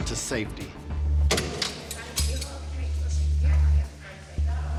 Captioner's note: door opens